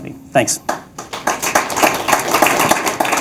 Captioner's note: clapping